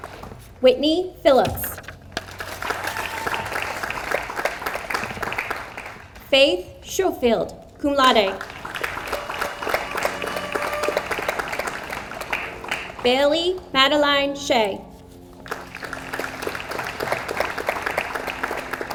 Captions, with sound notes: Whitney Philips. (audience applauds) Faith Schofield, cum laude. (audience applauds) Bailey Madeline Shea. (audience applauds)